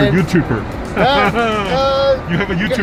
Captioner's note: men laughing